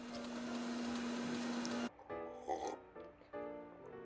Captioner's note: sips, ahh